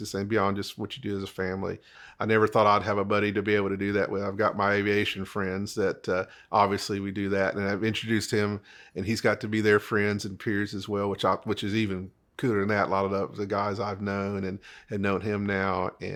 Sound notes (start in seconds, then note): none